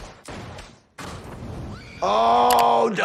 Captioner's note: gunshots banging; flames whooshing